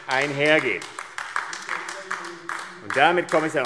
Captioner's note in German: Beifall AfD